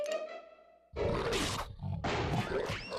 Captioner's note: growling